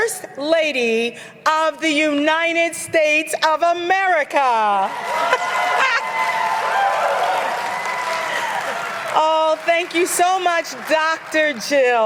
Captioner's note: cheers & applause